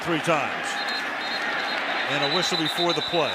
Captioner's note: whistle